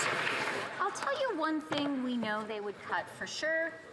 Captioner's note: some Applause